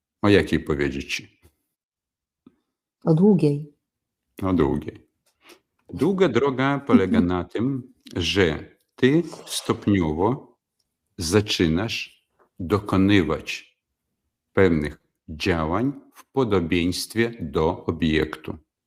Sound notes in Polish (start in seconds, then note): 5.6 parsknięcie